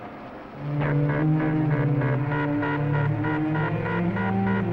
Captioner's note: electronic beeping